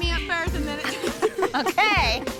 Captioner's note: laughs